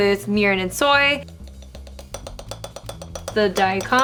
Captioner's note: spoon clinking